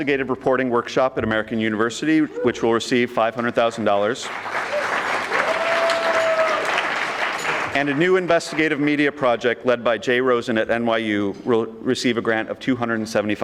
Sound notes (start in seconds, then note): 3.8 audience clapping